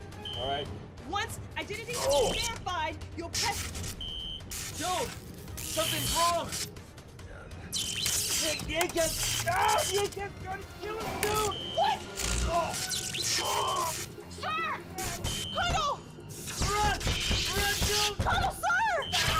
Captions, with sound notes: ALL RIGHT. ONCE IDENTITY... [ELECTRICITY CRACKLING] IS VERIFIED, YOU'LL PRESS-- JOAN, SOMETHING'S WRONG. THE ACAT's--AAH! THE ACAT's TRYING TO KILL US, JOAN! WHAT? [CRACKLING] SIR! COLONEL! RUN! RUN, JOAN! COLONEL, SIR!